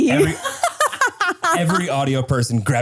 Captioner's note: laugh